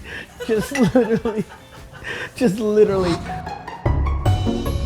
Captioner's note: woman laughing; bright upbeat music